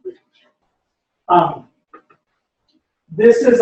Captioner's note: pause